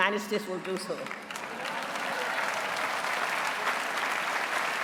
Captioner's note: applause